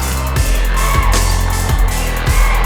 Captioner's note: players shouting